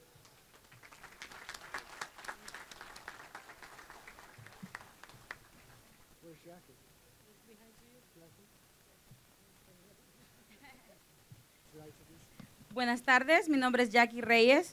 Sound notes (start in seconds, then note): 4.6 applause; 9.9 speaking spanish